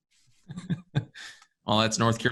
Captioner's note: laughs